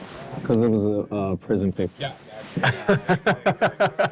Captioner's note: laughs